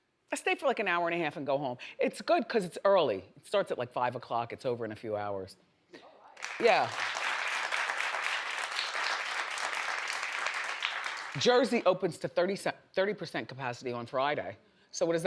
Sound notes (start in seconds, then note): 6.4 audience applauds